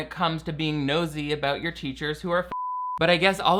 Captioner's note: beeps